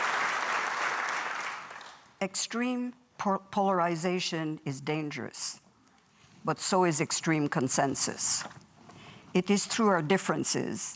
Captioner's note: applause